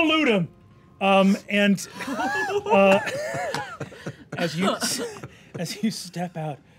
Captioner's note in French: rires